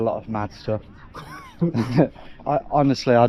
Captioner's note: both laugh